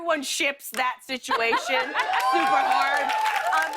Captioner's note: cheers and applause